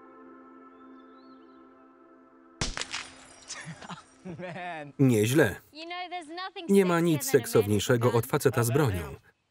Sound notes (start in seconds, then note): 2.6 gun shooting; 2.6 glass exploding; 3.5 laughter; 3.6 placid music